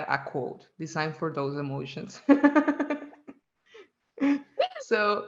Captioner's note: laughs